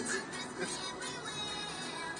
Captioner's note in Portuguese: Risos